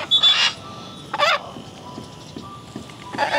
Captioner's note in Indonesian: Suara Burung